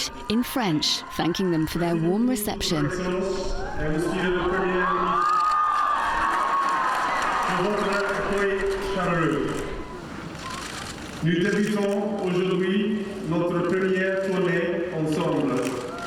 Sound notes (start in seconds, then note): 2.9 Prince William speaking in French; 5.1 crowd cheers; 8.3 Prince William speaking in French; 12.8 cameras clicking